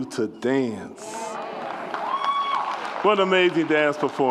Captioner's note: audience cheers and applauds